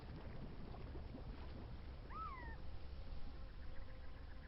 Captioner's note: birds chirping